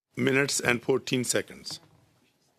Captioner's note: speaking French